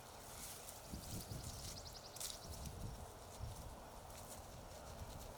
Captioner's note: birds chirping